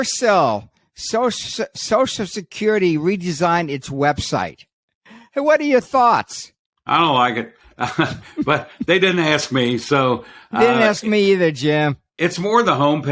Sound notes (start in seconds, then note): 7.8 chuckles